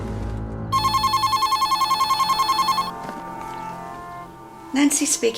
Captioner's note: phone ringing